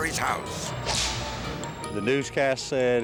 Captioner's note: whip cracks